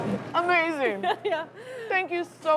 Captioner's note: laughs